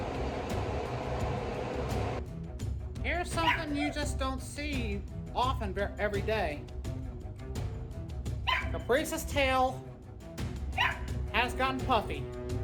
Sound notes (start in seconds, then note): 6.6 Ella barks; 12.4 music continues, continues barking